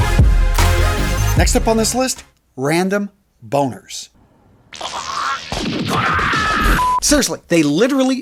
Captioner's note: sound effect